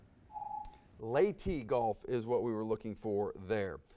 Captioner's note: timer dings